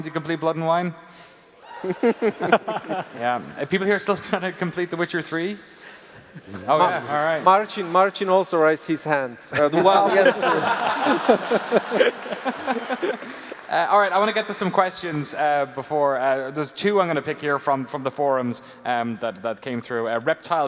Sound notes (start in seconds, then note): 9.6 laughs